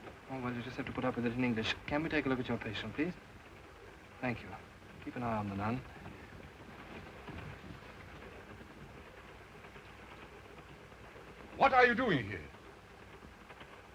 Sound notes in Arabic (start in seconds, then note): 7.0 صوت خشخشة القطار; 13.7 صوت خشخشة القطار